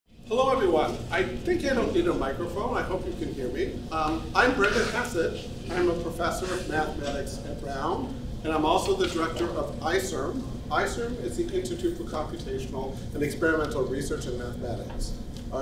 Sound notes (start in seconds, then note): none